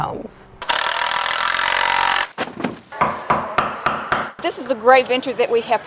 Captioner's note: drilling, hammering